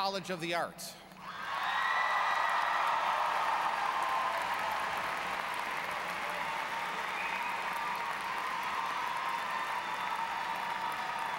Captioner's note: applause